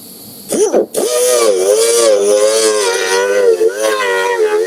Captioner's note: machine buzzing